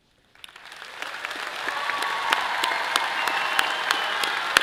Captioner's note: all applauds